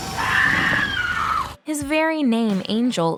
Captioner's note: screams